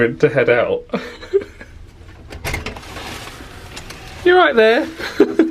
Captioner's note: laughing